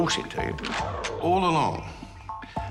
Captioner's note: gun cocks